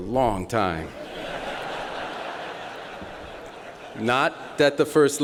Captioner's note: laughter